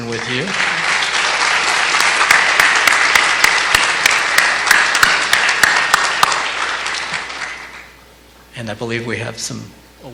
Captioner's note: clapping